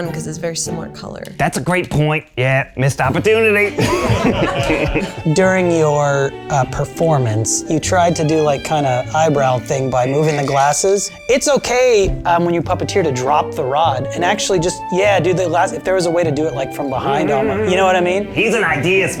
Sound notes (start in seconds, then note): 1.9 in puppet voice; 3.1 judges laugh; 19.0 in puppet voice